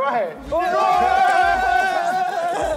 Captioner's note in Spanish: gritan